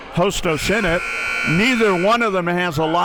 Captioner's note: buzzer blares